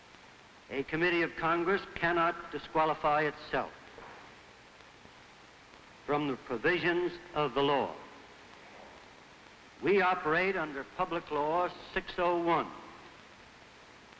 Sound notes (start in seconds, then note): none